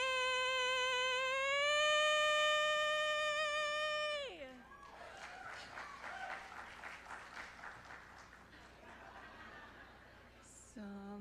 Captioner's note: applause